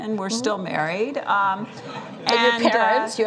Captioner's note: laughter